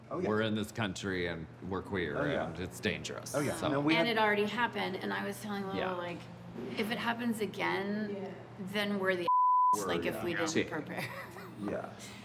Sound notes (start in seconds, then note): 9.2 beep; 11.5 laughs